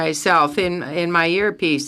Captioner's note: speaking French